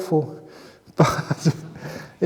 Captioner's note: chuckle